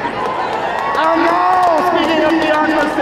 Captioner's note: crowd cheering